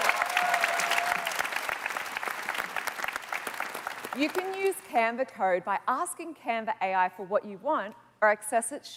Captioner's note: cheers and Applause